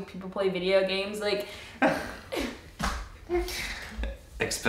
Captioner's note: laughing